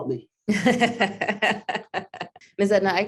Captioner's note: laughs